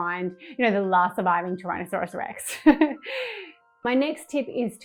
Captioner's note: chuckles